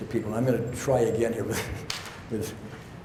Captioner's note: chuckles